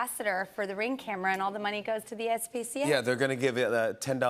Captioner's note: none